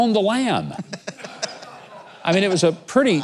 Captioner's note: audience laughing